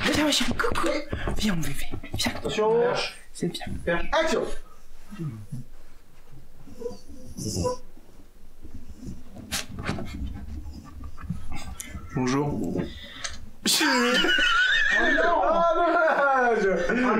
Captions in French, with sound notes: Coucou Viens mon bébé Action! *Bruit de chien* Bonjour. *Rires*